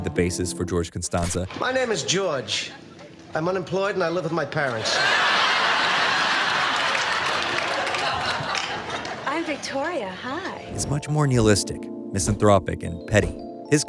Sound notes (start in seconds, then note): 4.7 laughter